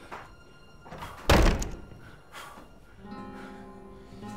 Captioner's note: door slams